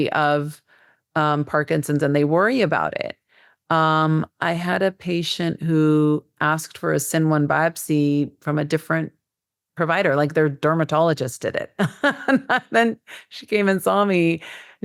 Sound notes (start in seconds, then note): 12.3 laughs